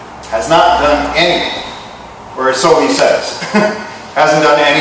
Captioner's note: chuckles